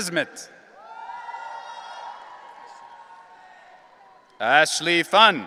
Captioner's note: audience cheering